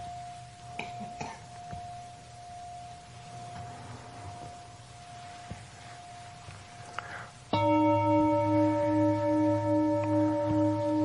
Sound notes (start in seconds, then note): 0.8 coughing; 7.5 bell chiming